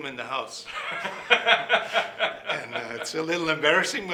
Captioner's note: laughing